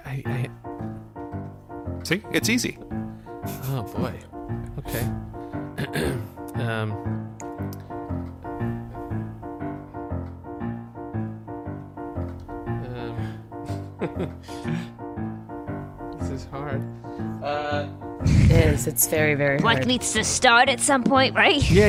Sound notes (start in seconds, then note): 0.1 starts playing a simple piano melody; 5.7 clears throat and pauses